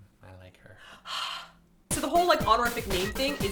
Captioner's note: gasp